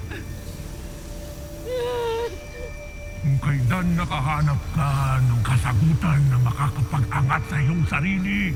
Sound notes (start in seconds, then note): 1.6 wails